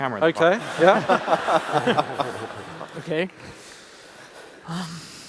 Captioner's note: laughs